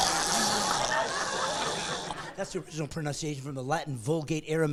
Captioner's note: gagging; laughing